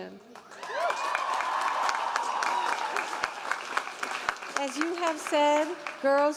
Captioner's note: audience cheering and applauding